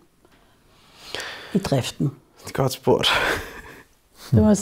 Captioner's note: laughs